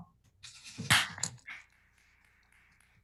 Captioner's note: clapping